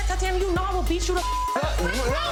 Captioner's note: beeps